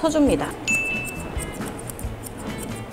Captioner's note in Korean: 효과음/띵하는 소리